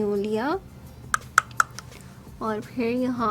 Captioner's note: taps brush